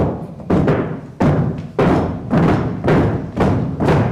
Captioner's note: crowd stomping their feet